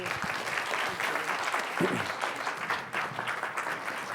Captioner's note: applause